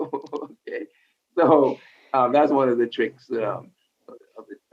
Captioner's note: laughs